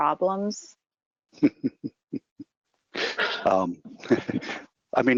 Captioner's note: chuckling